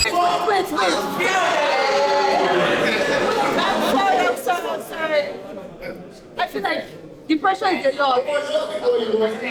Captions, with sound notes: Wait, wait, wait. [cheering] I'm sorry, I'm sorry, I'm sorry. I feel like the pressure is a lot.